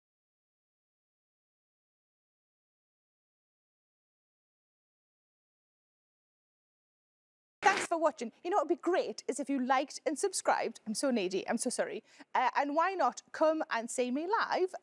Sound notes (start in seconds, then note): none